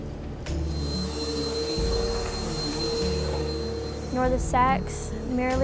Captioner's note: vacuum whirring